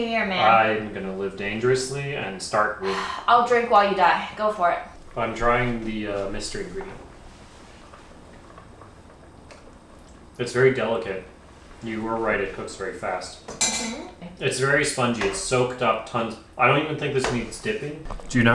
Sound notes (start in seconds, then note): 2.8 sighs; 6.9 air blowing; 13.6 glass clinking